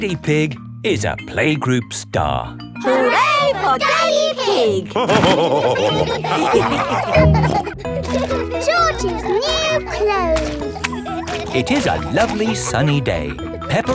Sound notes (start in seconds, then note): 5.6 all laughing